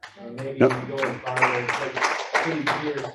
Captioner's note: audience laughs